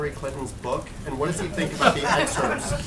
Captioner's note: laughter